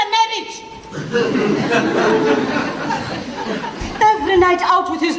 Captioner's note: audience laughs